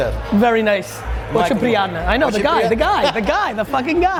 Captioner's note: speaking in Russian